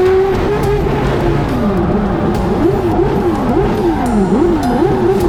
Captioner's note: race car revving continues